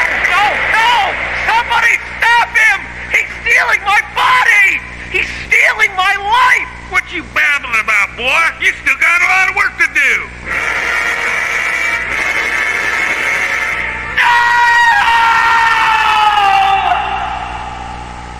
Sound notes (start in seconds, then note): 15.0 echoing